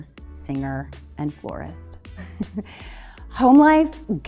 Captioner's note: chuckles